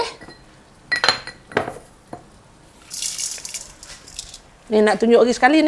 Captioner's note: sound of salt being sprinkled